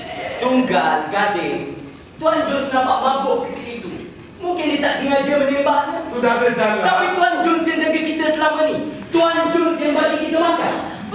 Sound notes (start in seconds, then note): none